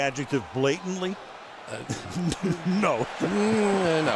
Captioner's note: crowd cheering